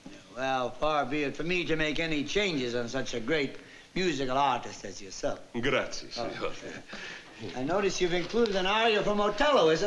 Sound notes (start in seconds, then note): 5.3 italian